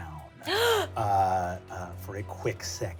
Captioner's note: gasps